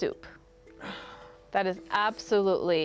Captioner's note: sighs